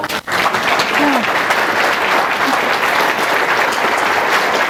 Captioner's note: audience applauds